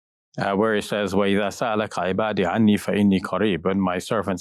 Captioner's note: speaking Arabic